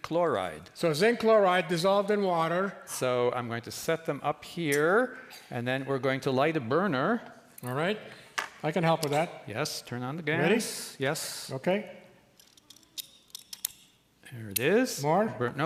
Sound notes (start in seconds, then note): 12.1 flint striker chirps while sparking